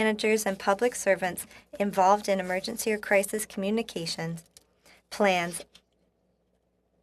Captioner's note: speaking French